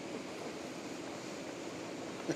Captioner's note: laughter